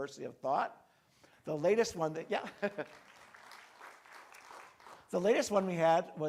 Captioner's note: crowd clapping